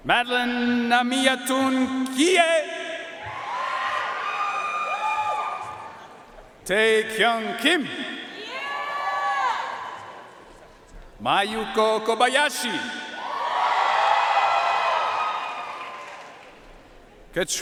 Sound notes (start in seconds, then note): 3.3 audience cheering and applauding; 8.5 audience cheering and applauding; 13.3 audience cheering and applauding